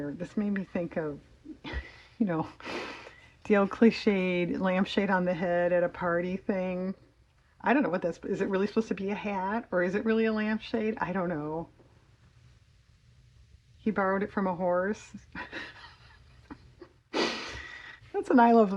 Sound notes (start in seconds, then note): 15.4 laughs